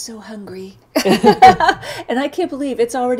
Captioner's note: laughs